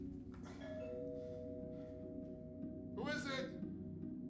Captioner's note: door bell rings